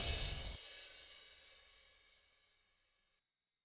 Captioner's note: upbeat music; twinkling